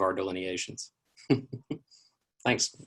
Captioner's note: laughs